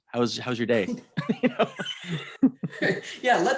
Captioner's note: both laughing